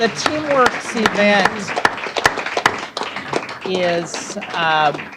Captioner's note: applause